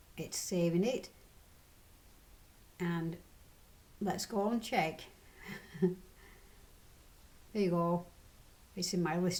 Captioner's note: laughs